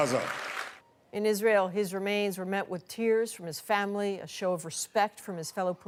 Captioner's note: applause